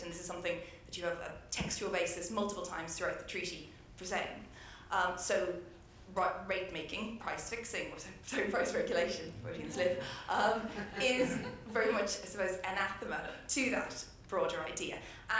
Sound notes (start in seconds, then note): 9.2 laughs; 10.4 everyone laughs